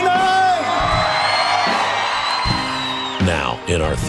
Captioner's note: cheering